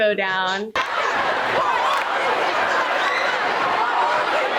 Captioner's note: students cheering